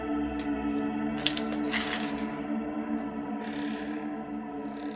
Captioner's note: latch rattling; hinges squeaking